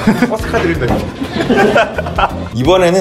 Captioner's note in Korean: 웃음소리